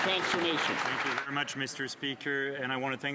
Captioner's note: some Applause